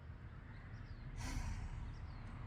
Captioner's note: exhales loudly